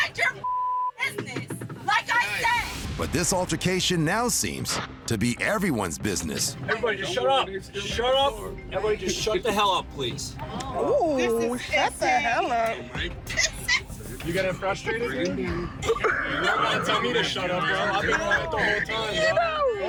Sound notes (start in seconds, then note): 13.3 laughs